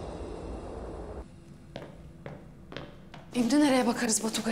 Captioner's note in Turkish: Ayak Sesleri